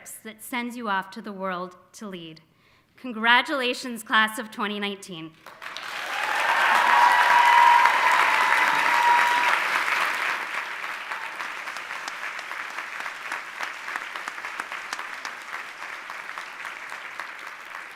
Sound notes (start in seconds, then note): 5.9 audience applauding and cheering